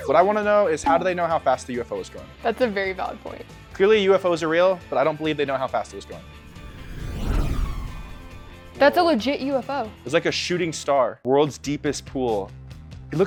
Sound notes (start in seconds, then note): 6.0 UFO whooshing